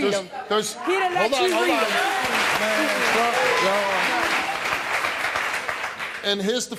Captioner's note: audience applauding